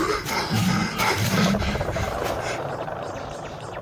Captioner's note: heavy breathing; portal sound